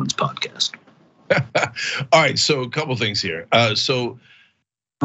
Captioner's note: laugh